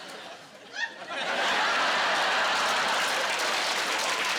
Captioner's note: laughing